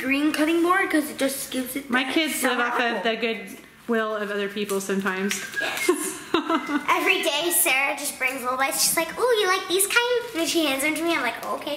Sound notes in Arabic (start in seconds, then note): 5.6 يضحك